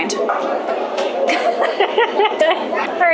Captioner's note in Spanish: risas